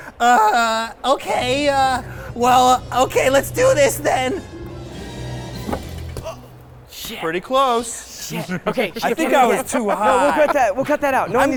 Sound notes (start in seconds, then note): 0.2 whining; 4.7 motivational instrumental music; 6.1 exclaiming